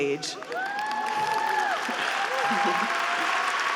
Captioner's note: group cheering